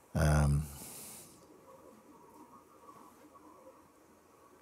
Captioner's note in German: Stille